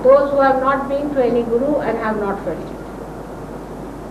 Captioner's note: none